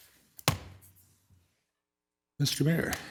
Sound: object taps

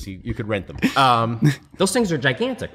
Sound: laughter

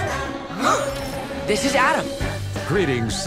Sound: Batwheels gasp

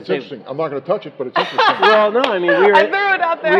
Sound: laughing

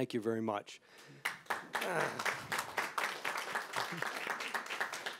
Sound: audience applauding

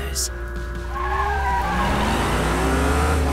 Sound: tires squealing

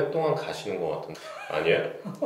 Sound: laughter

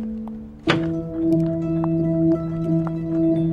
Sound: door rattling

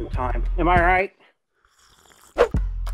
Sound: slurp

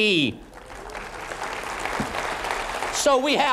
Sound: applause

